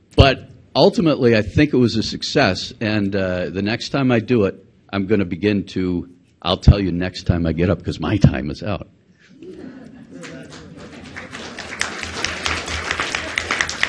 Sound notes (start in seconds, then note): 9.4 audience laughs; 10.1 audience applauds